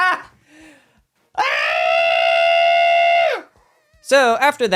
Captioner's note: screaming